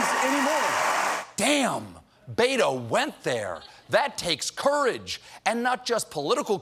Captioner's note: cheers and applause